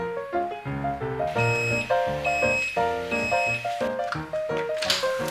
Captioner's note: thump thump